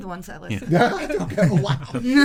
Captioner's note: laughing